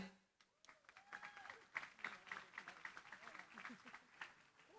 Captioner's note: applause